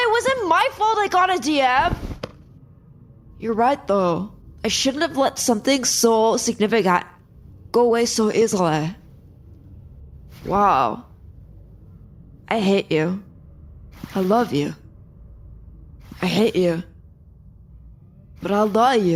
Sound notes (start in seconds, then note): 11.6 quietly; 17.7 shouting